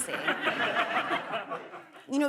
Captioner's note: laughter